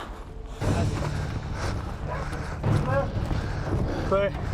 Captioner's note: heavy breathing